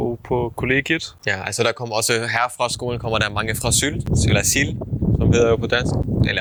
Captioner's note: in German